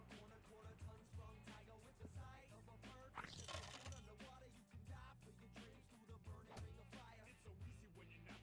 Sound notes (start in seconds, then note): 3.1 splat